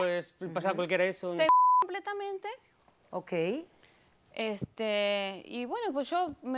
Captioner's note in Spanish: Bip; Bip